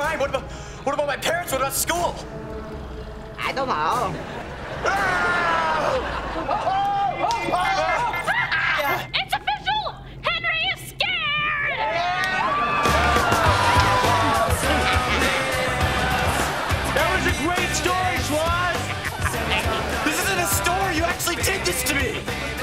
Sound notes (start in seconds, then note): 4.8 screaming; 7.6 beeping, laughing; 11.8 cheering, music playing; 18.8 laughing